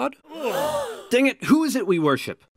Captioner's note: gasps